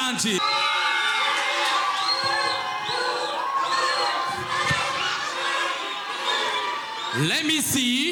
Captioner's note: audience cheering